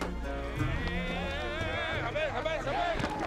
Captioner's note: chattering in arabic